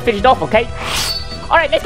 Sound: sword sound effect

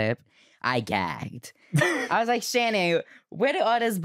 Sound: laughs

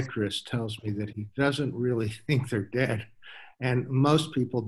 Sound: laughs

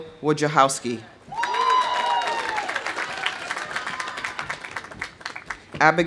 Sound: audience cheering; audience applauding

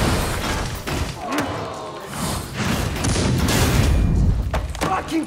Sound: guns firing; crowd awwing

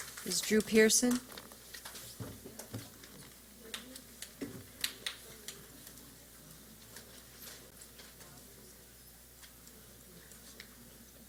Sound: silence

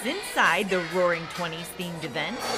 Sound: crowd cheering

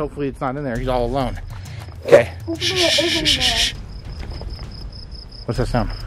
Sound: shushing noises

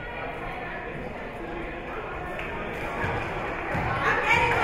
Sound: spectators chattering

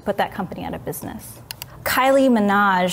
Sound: mouse clicking

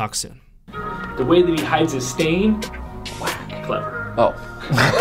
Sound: laughter

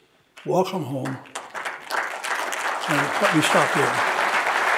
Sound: audience applauding

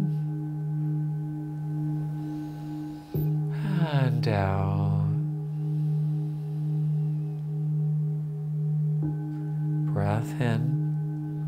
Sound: breathes in

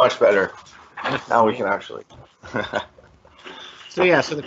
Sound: laughs

